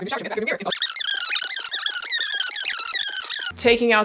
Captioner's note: fast forwarding audio